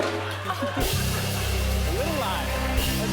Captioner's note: cheers and applause